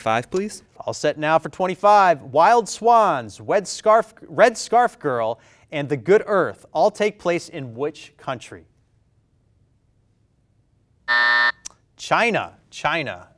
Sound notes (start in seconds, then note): 10.5 bell rings